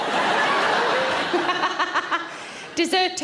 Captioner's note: audience laughs; Sarah laughs